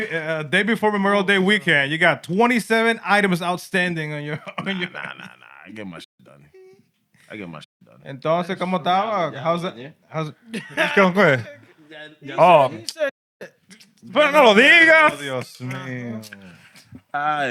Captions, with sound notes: Day before Memorial Day weekend, you got 27 items outstanding on your-- Nah, nah, nah, nah. I get my done. I get my done. (Speaking Spanish) How's it? How's it? Let's go. Go ahead. He said (Speaking Spanish)